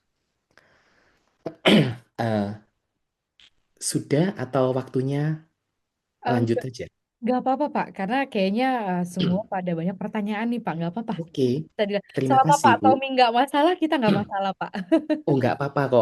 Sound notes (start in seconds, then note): 1.4 berdehem; 4.1 batuk; 9.9 berdehem